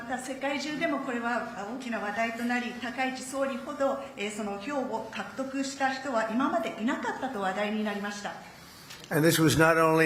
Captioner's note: speaking Japanese